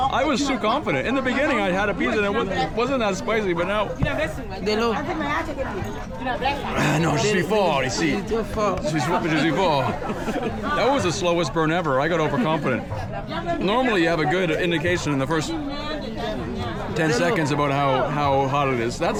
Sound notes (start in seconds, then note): 4.9 both speaking in foreign language